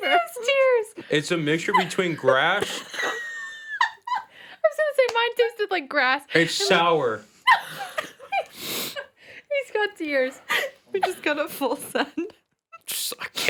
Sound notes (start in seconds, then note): 1.5 laughs; 7.4 laughing